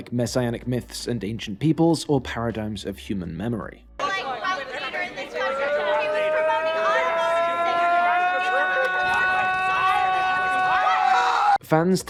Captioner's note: clip - TROY: *continuous screaming